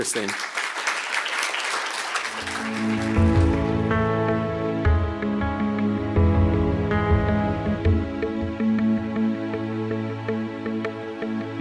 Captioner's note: applause